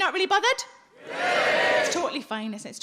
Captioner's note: audience cheering